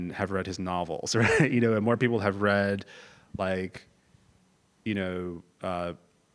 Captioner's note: laugh